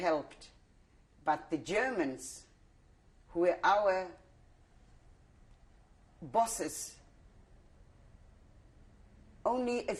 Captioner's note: pauses for 3 seconds